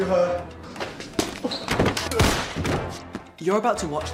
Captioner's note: thudding